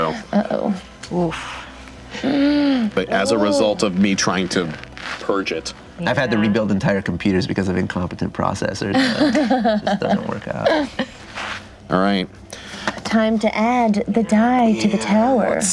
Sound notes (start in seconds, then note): 8.9 laughing